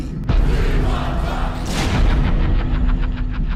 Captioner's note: chanting; evil laughter